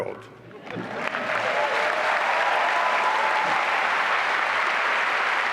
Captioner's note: applause and cheering